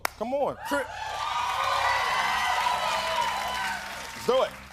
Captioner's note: cheers and applause